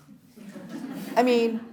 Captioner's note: audience laughs